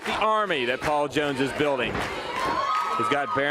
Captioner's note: crowd cheering